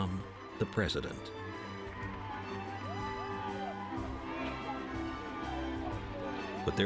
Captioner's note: crowd cheering